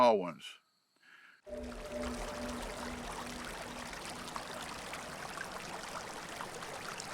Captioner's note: eerie music; creek flowing